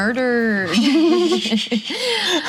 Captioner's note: laughs